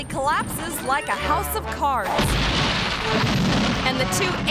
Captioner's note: concrete rumbling